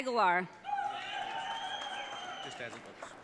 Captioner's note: audience cheering